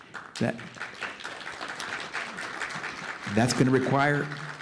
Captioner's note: applause